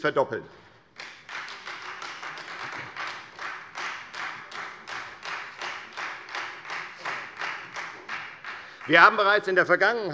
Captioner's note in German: Beifall Freie Demokraten